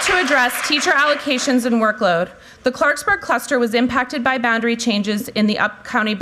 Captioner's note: applause